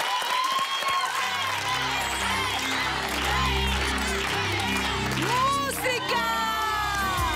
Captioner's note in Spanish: Aplausos